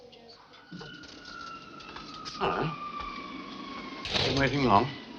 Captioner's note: plane whirring